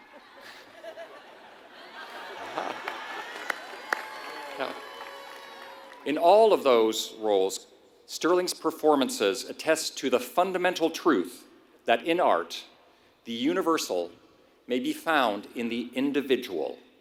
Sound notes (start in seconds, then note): 0.0 applause; 0.1 laugh